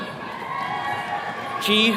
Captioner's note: attendees cheering